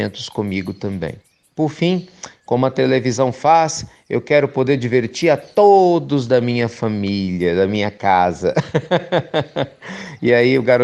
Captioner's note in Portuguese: Risos